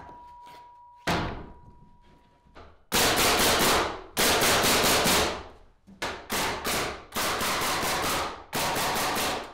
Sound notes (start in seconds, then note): 3.1 nails banging loudly